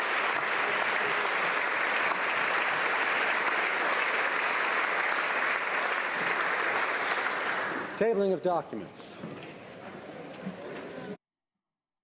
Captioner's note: applause